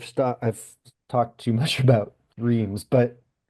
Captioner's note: chuckles